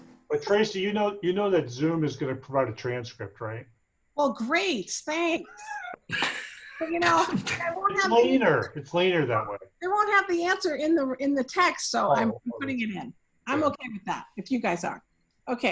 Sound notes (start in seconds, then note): 5.3 laughing; 9.0 faintly speaking